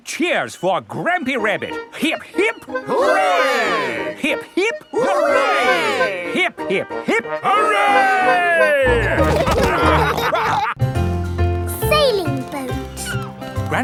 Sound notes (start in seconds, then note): 8.5 all laughing